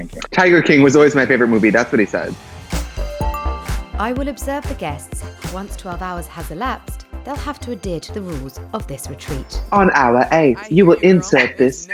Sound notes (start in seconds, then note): 2.3 upbeat music; 3.1 bell dings